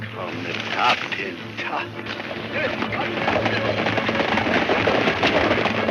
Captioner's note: speaks in foreign language; upbeat music